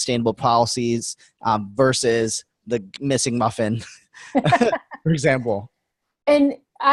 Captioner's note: chuckles